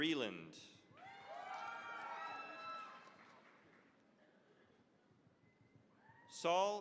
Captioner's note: cheering, applause